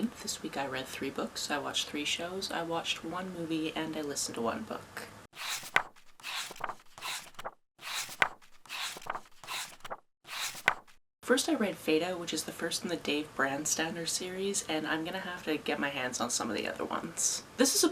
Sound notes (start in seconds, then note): 5.3 pages turning